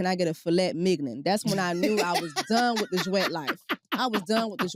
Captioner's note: laughs